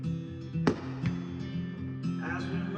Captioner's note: firecrackers booming